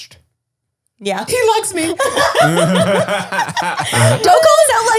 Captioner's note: all laugh